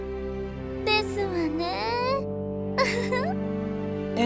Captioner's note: giggle